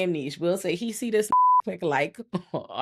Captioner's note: beep